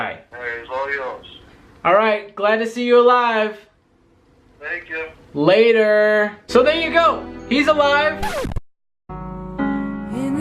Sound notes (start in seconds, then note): 8.1 record scratches